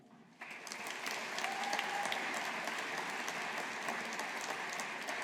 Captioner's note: audience applauding